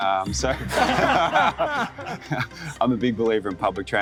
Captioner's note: laughing